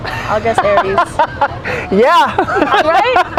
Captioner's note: laughing